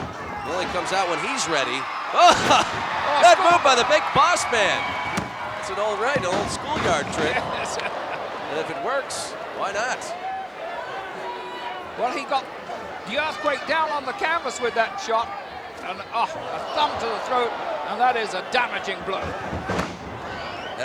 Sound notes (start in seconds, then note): 2.2 laugh